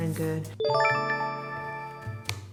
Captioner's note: chime